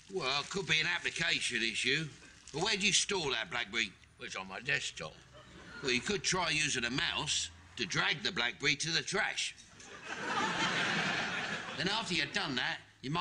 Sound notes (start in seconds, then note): 9.8 audience laughing